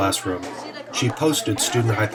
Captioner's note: chatter